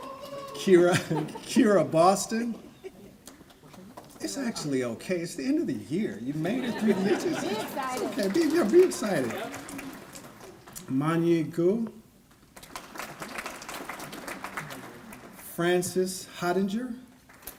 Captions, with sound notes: Kyra Boston. It's actually okay. It's the end of the year, you made it through the year. Be here. Be excited. Manyi Guo. (applause) Francis Hottinger.